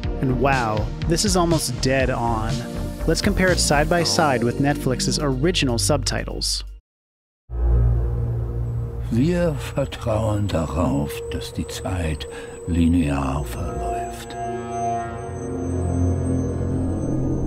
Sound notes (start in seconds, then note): 10.7 German voice-over